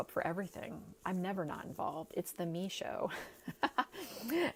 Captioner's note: laughing